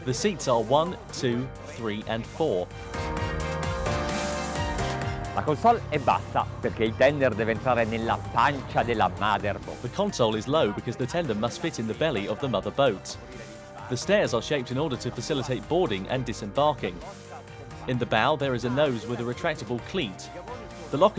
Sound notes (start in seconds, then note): 3.4 upbeat music; 5.5 speaking foreign language